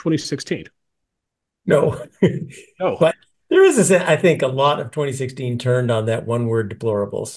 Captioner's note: laugh